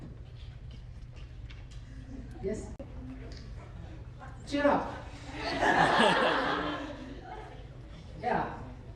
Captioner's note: laughter